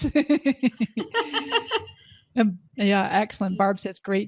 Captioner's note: laughing